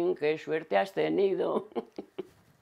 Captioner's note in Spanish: Ríe